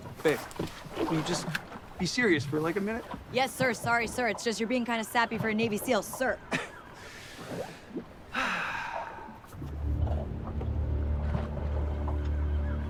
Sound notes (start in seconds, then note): 8.3 Kent sighing; 9.6 dramatic music